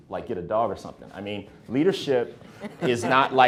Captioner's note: speakers laughing